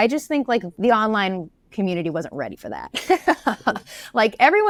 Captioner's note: laughs